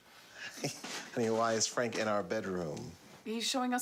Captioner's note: laughs